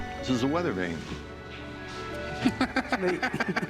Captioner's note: laughter